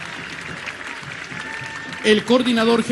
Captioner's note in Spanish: aplausos